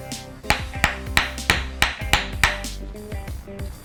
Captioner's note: pounding